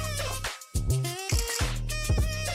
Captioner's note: upbeat music; camera clicking; upbeat music